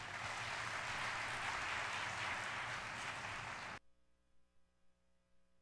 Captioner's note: audience applauding